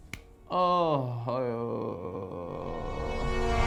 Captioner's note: disappointed groan